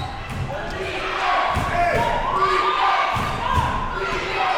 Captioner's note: chanting